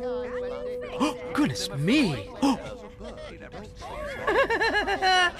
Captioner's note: gasp!